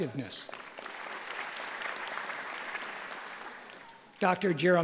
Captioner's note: applause